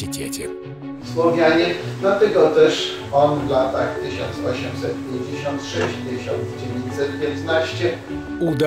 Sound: speaks Polish

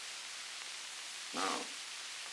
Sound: Murrow, mumbling

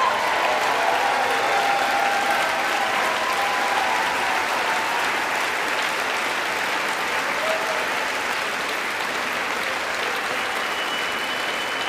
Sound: applause

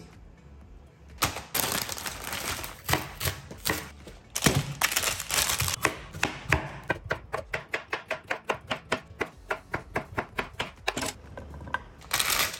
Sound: asmr chopping

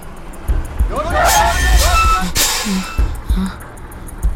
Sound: Malay Language

